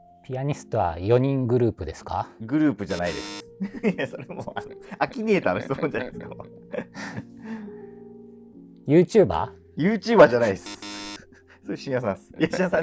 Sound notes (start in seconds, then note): 3.5 laughing